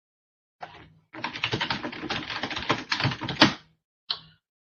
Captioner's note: keyboard clicking